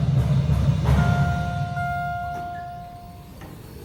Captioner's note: elevator Chimes